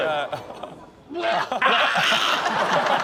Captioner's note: man gags; audience laughs